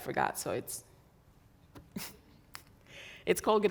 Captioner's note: chuckles